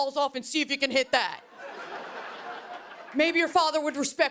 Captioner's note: laughter